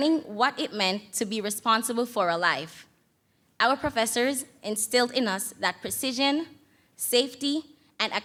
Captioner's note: none